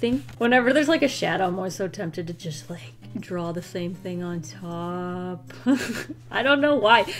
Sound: laughs

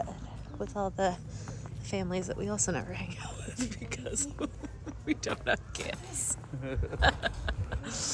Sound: laughter

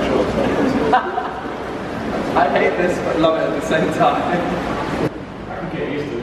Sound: laughing

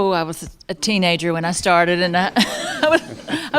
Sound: laughter

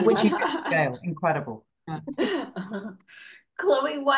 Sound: everybody laughing

